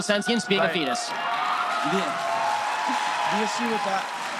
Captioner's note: audience cheering; audience applause